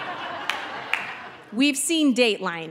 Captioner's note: audience laughing